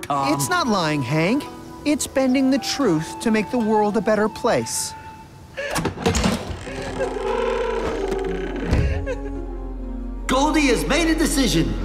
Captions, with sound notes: It's not lying, Hank. It's bending the truth to make the world a better place. [door opens] Goldie has made a decision!